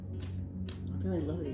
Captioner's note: cards shuffling